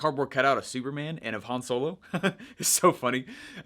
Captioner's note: laughing